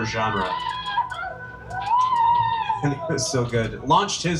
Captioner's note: person yelling